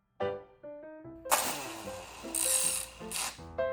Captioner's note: chain explode sound